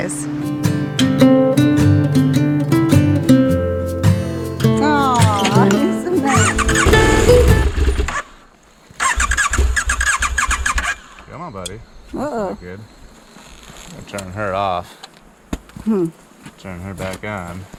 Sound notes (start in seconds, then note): 9.0 engine not starting